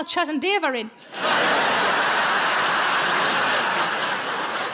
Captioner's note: audience laughs